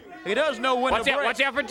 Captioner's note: crowd chatter